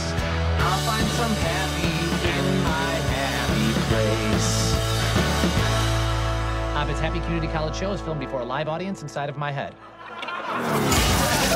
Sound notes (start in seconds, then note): 9.6 laugh track